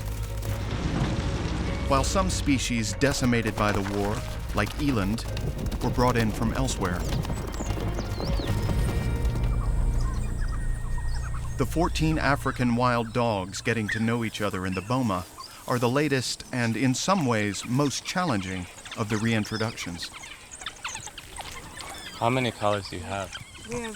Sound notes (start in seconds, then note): 9.2 dogs chittering